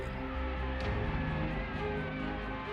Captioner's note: crowd clamoring